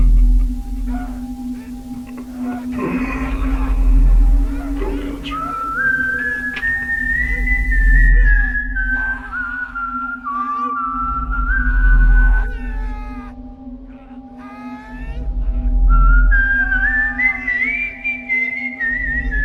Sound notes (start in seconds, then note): 5.2 painful moans; 5.2 whistling